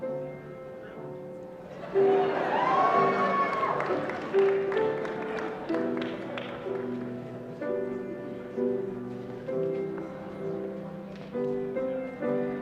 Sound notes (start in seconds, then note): 1.7 laughter and cheering